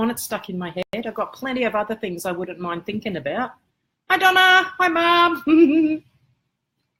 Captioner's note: giggle